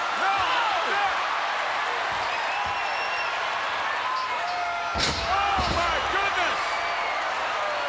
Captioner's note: applause